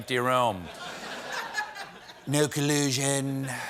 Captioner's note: laughter